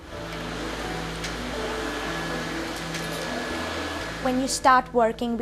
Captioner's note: vacuuming